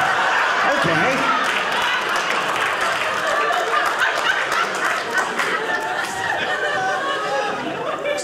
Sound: audience laughing

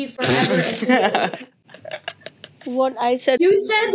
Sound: laughing

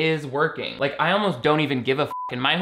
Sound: beep

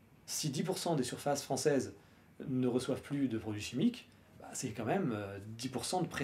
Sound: none

